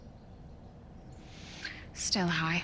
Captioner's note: birds chirping outside